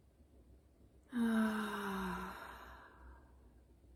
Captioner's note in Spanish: suspiro